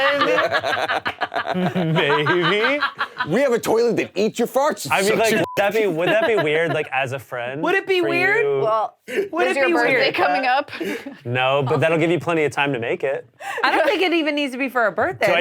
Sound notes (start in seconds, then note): 0.0 all laughing; 5.2 beep